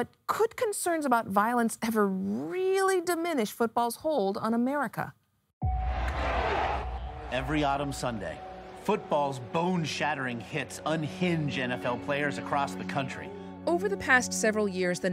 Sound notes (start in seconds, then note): 5.0 dramatic music; 5.6 crowd cheering